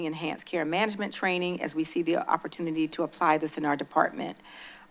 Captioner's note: none